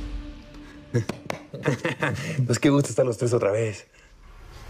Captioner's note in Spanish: Risas